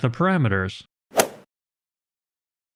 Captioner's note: golf ball hit sound effect